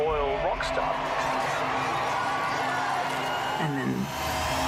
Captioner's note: crowd cheering